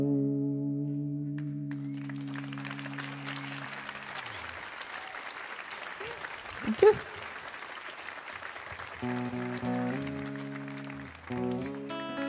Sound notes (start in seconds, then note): 1.6 audience applauding and cheering; 9.0 light guitar music